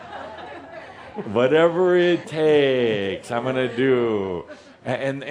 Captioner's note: laughter